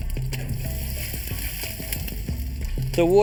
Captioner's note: water splashes